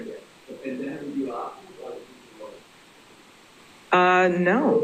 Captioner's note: man speaks faintly